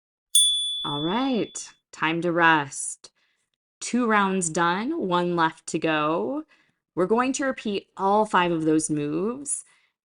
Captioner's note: chime